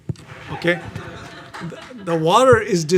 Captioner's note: audience laughing